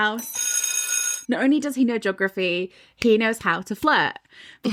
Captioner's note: bell ringing